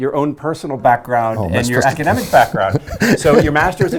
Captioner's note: laughing